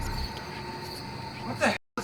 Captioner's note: voices whispering